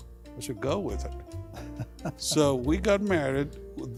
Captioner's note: chuckling